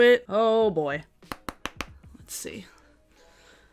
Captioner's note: brush taps